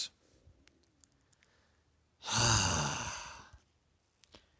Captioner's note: sigh!!!